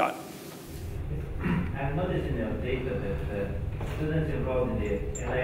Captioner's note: foreign man speaks